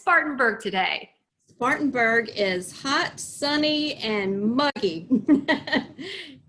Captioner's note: laughs